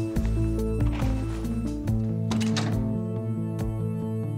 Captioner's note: bullets rattling